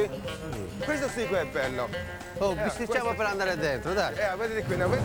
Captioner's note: speaking Italian